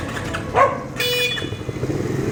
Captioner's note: barking